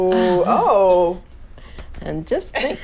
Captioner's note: laughs